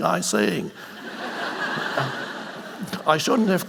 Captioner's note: audience laughing